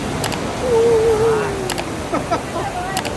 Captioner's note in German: lacht; Hund heult auf